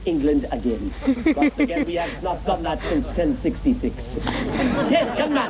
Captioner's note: audience laughs